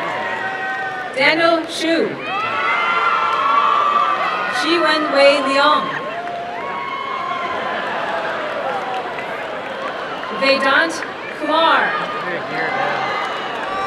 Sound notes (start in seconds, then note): 2.1 crowd cheering and applauding; 13.3 applause and cheering